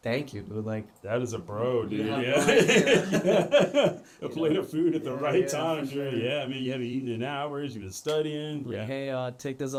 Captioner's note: laughter